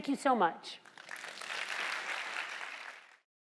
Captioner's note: applause